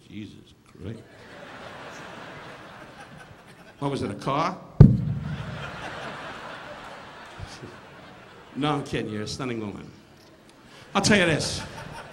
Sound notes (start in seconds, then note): 1.1 audience laughing; 4.5 Don imitating crashing thud; 5.2 audience laughing; 7.2 Don chuckling